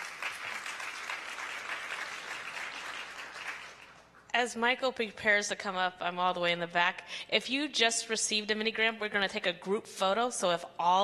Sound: applause

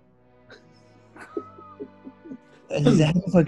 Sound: giggling

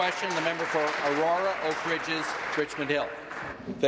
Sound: applause

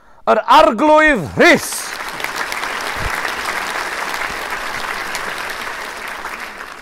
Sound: applause

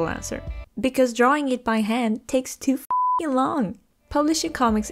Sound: beeping

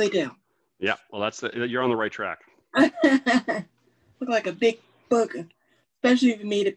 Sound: laughs

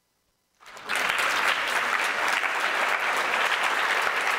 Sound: applause

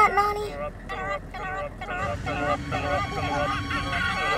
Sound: chattering

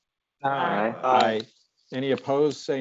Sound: multiple voices

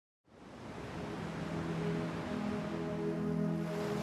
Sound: ocean waves roar

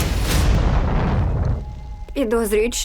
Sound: flames blazing

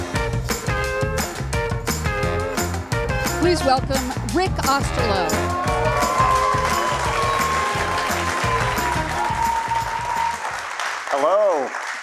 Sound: cheers and Applause

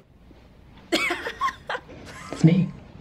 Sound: laughs; chuckles

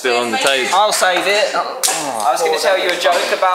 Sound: sound of failure

